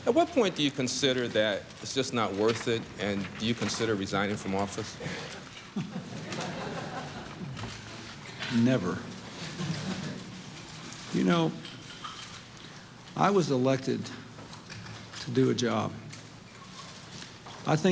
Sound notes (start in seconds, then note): 5.7 light laughter